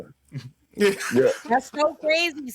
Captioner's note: laughing